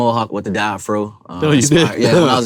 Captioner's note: laughs